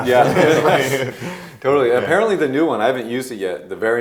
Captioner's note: group laughing